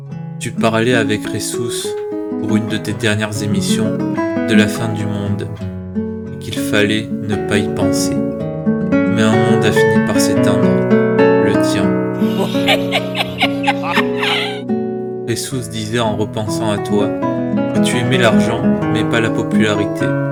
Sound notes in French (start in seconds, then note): 12.2 Rires